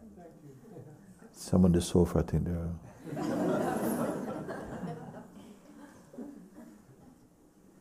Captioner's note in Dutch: gelach